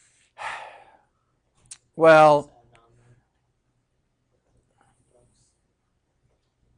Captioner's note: sighing